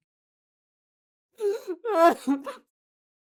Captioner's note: crying